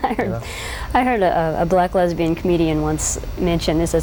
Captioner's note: laughs